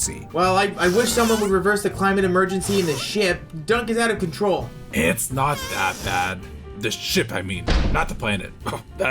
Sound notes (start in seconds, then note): 2.6 Dunk furiously farts